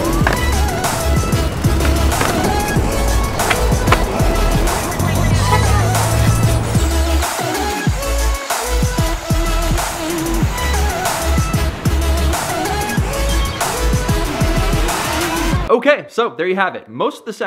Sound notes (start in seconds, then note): 0.0 skateboard hitting the ground; 6.9 water rushing